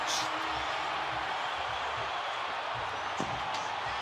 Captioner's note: crowd cheering